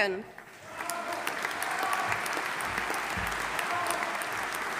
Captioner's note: audience applauding